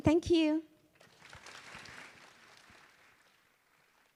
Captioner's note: applause